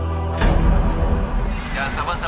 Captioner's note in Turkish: kapi çarpma sesi̇